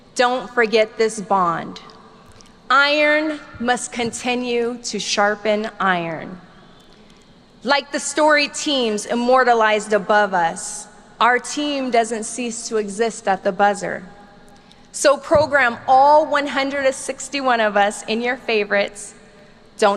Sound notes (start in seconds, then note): none